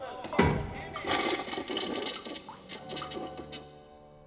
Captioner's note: toilet flushes